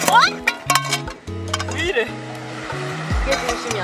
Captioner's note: crashing